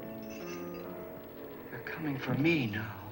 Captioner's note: moaning and chains clinking